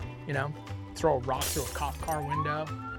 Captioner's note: glass breaking; siren